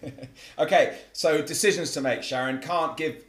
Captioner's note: laugh